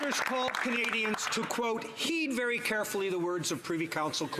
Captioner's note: some Applause